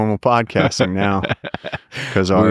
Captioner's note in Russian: Лекс смеется